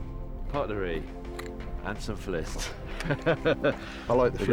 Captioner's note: laughing